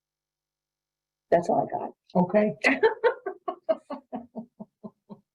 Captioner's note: laughs